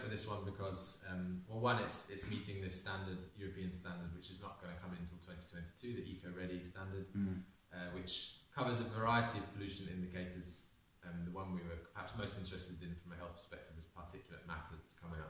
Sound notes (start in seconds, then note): 7.1 mmm